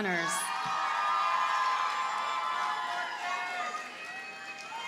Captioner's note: audience cheers and applauds